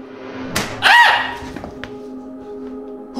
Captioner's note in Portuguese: Grito histérico